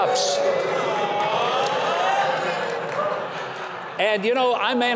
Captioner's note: audience cheers